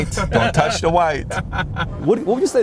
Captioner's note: laughing